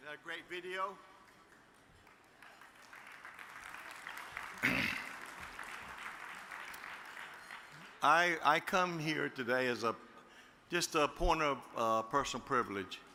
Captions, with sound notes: - Is that a great video? (audience applauds) I come here today as just a point of personal privilege.